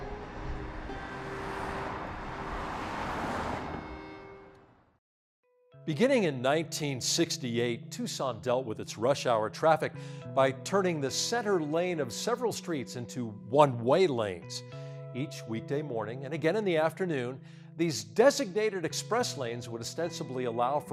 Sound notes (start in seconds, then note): 0.0 cars driving